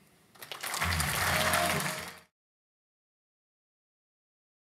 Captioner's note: applause